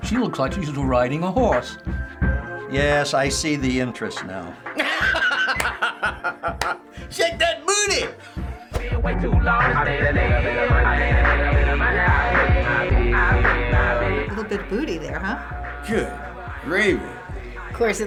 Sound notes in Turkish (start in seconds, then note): 4.8 Alkışlar ve Güler